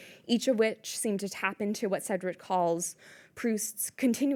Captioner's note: none